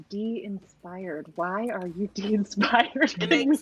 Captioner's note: laughs